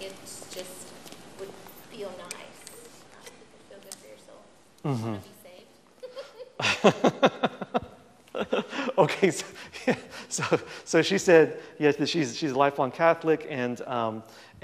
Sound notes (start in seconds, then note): 6.0 laughs